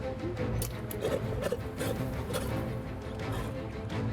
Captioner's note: lion growls; dramatic music